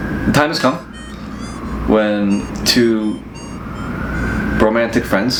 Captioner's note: distant siren